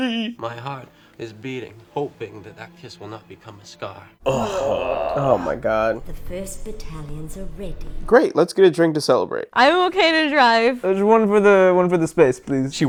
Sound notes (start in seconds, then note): 4.2 groans of disgust